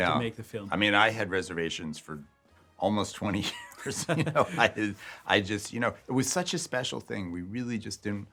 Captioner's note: laughs